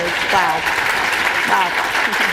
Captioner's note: applause